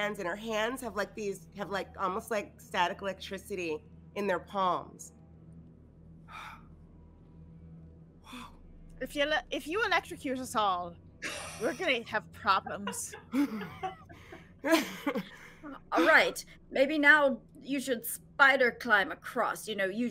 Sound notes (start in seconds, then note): 6.4 gasps; 12.6 all laughing